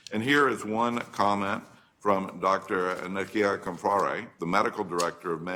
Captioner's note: none